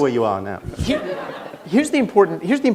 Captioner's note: laughter